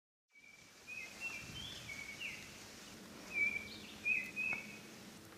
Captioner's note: birds chirping